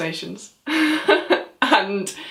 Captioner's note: laughs